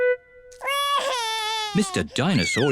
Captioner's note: wails